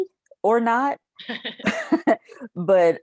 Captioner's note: chuckles